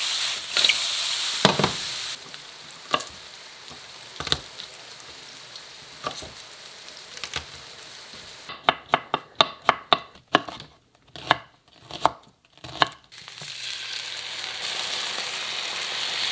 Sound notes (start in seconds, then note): 3.4 chopping; 13.0 sizzling